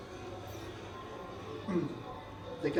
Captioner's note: clears throat